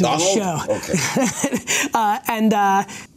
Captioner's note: laughs